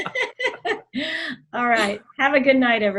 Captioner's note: laughs; laughing